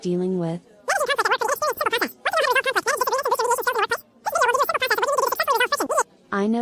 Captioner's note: high-speed explanation